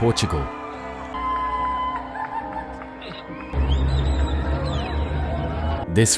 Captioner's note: cheering